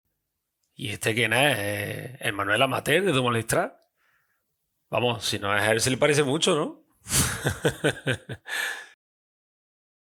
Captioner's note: laughs